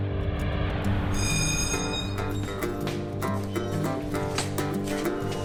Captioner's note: bell ringing